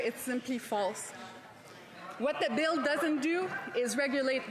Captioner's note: speaking French